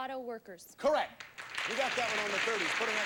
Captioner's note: audience applauding